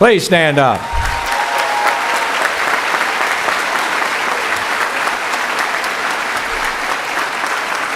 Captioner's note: cheering